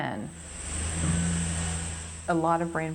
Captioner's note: car engine roaring